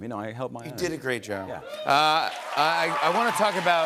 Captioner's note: cheers and applause